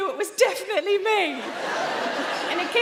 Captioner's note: audience laughing